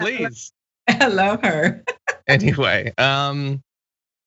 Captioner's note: laugh